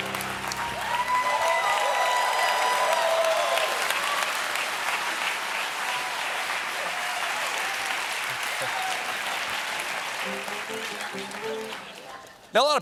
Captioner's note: cheers; applause